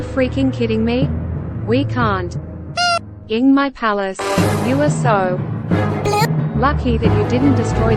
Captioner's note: beep